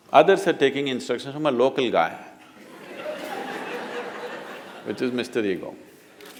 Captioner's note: laughter